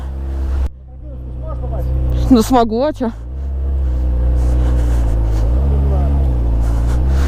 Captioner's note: in Russian